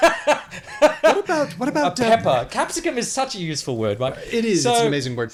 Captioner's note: laughs